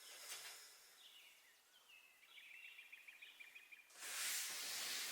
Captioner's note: birds chirping